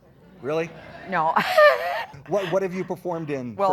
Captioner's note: laughs